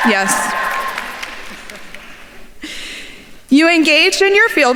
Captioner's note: faculty member chuckles